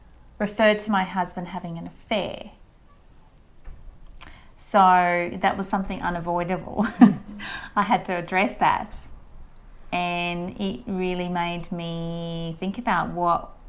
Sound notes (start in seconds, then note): 6.7 chuckles